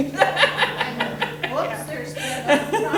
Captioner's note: laughing